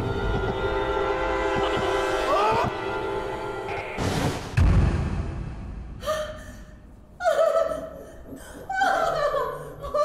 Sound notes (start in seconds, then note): 6.0 gasp; 6.7 crying